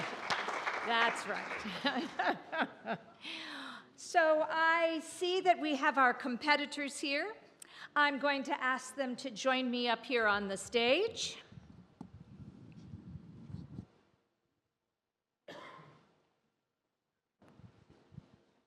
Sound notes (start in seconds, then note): 1.6 laughs